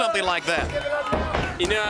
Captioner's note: crowd chatter